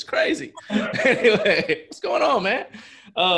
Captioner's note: laughs